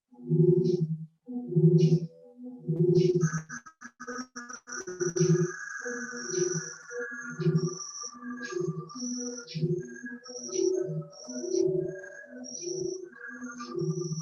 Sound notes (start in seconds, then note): 2.7 electronic sound on moving image piece played